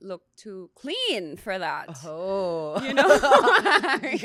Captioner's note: laughs